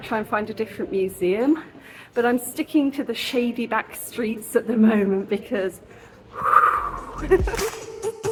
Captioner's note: whooo; laughing